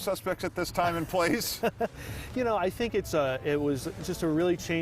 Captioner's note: laughs